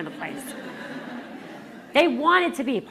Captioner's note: laughter